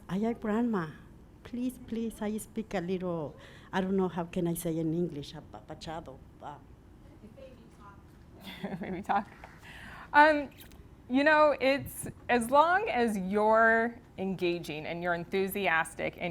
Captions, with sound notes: I your grandma, please, please how you speak a little. I don't know how can I say in English (speaking in foreign language). Baby talk. Baby talk (chuckles). You know as long as you're engaging and you're enthusiastic